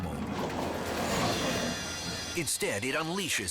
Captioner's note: lion roars